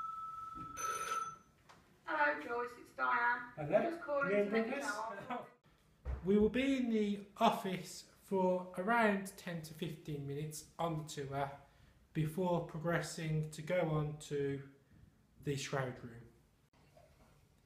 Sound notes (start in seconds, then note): 0.0 phone rings